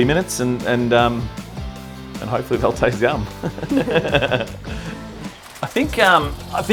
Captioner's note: laughs